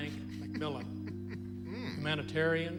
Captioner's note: crying